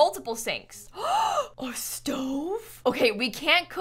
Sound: gasps

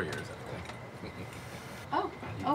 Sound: chuckles

